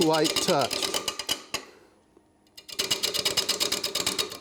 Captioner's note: wood lathe clanks